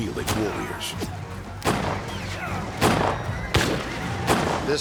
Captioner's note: gunshots